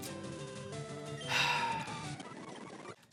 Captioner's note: sighs